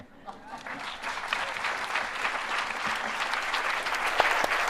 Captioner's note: applause